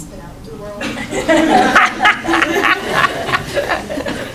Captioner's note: laughing